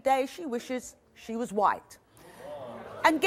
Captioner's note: crowd murmurs